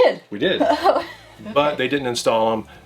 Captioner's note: laughs